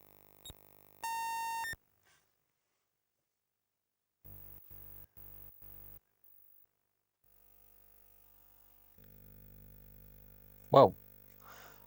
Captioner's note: beeping